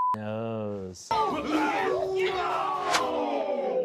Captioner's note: beep; grunting